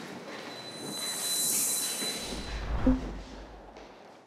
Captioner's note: whooshes